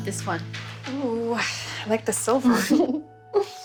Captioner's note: giggling